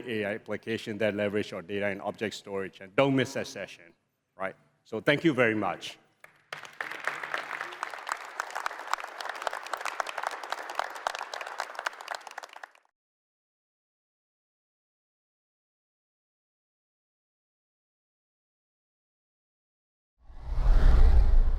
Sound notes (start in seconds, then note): 6.2 applause